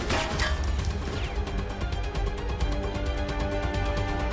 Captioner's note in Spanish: Disparos